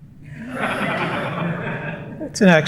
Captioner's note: laughter